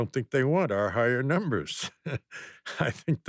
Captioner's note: laughs